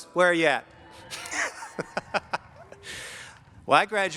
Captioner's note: laughing